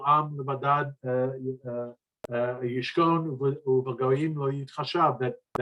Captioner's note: speaking in foreign language